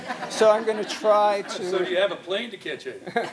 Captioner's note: interruption from audience